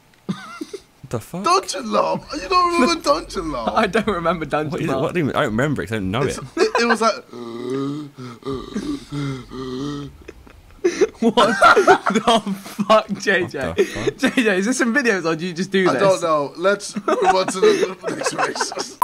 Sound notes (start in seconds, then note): 7.9 begins heaving; 11.6 laughs; 13.0 laughing